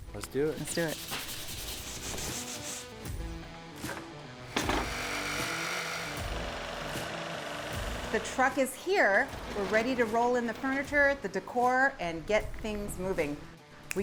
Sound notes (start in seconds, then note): 0.5 paper sanding; 4.4 saw buzzing